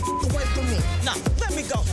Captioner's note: beep; intense music